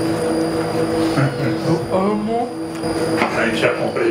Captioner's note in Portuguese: risos